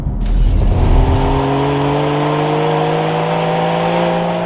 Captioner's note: engine revving